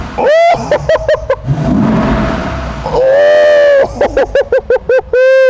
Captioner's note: engine roars smoothly